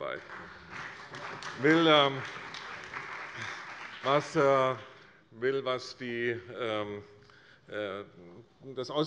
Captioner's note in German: Beifall bei der CDU und dem BÜNDNIS 90/DIE GRÜNEN